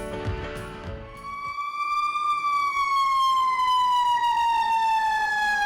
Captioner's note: fire engine sirens roaring